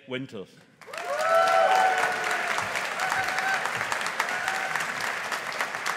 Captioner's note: audience applauding